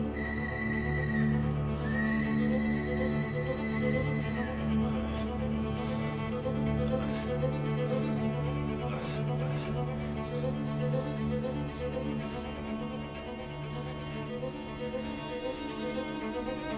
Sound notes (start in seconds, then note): 0.0 whistle blows; 6.0 Haviland grunts